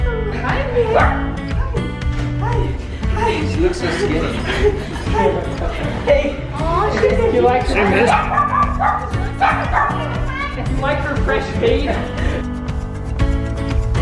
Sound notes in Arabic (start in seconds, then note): 8.0 كلب ينبح; 8.2 موسيقى سعيدة